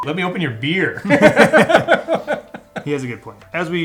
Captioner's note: laughs